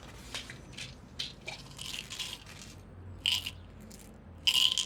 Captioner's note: pills rattling